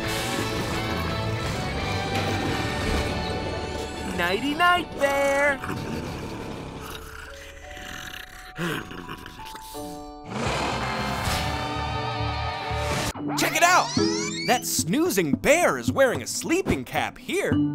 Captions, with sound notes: [snoring] Nighty-night, bear. [snoring] Check it out! That snoozing bear is wearing a sleeping cap here,